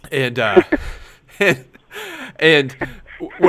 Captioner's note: laughs